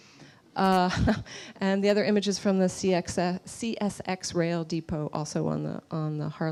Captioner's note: laughs